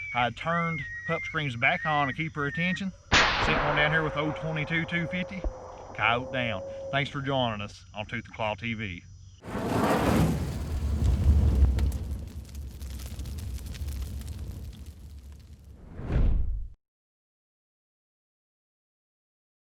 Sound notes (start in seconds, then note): 9.4 fire whooshing; 11.6 fire burning